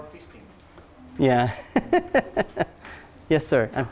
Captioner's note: laughs